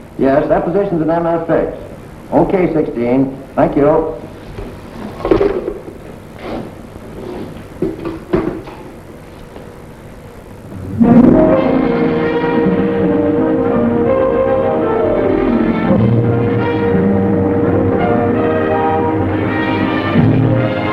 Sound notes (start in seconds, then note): 5.3 phone clattering; 10.8 upbeat orchestral music